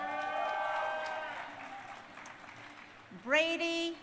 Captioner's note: crowd cheering